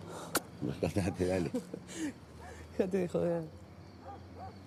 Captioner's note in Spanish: Turca ríe